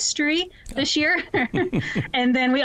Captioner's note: laughs